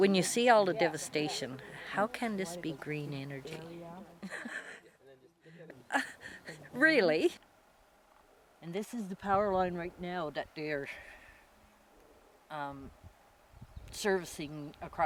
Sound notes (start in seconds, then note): 4.2 laughter